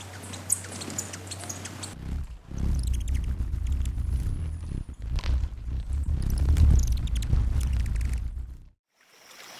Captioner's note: bird chirping; bird wings flapping; birds chirping; river flowing